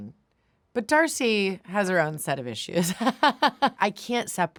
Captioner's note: laughs